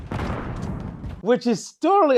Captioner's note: intense Call of Duty gameplay